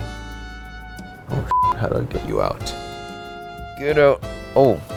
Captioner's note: beeps